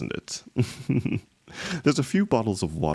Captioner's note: laughs slightly